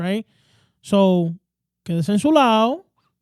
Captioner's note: speaking In Spanish